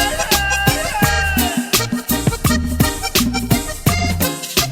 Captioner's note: dog barking; cumbia music playing W/ Spanish Lyrics